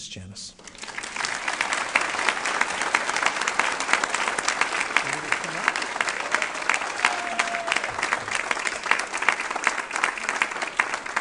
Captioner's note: applause